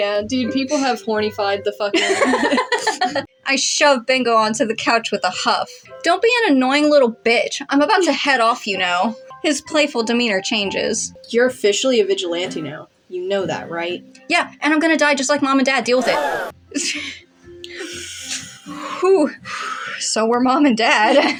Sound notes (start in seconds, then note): 2.0 laugh; 16.0 crowd Gasps; 16.0 awkward Sighs